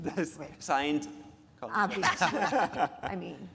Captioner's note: speakers laughing